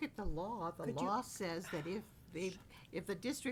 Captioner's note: sighs